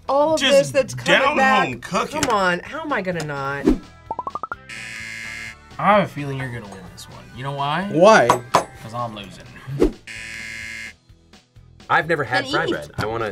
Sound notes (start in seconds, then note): 4.6 buzzer; 10.0 buzzer